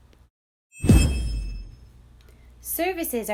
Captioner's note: whooshing